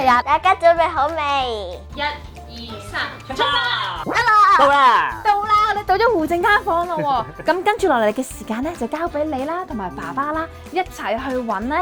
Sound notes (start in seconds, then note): 6.6 laughing